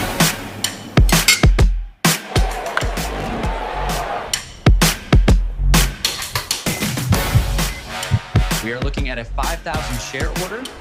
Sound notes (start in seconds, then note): 2.0 chatter; 6.6 beeping